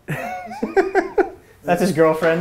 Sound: laughter

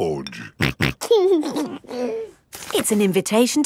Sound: snorting and giggling

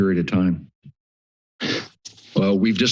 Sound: pause

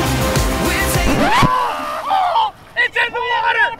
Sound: voiceover

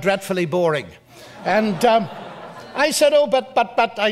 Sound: audience laughs

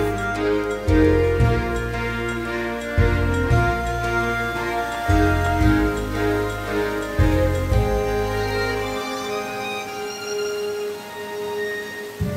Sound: water rushing

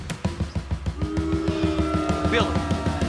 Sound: crowd boos

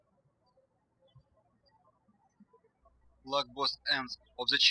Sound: birds chirping

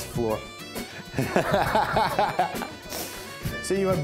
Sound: all laughing

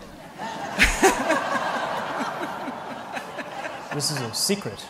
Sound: laughter

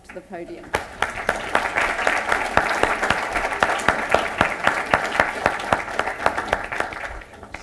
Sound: applause

